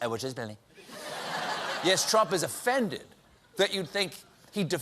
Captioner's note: laughter